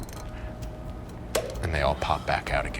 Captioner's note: pop